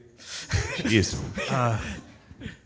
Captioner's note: soft laughter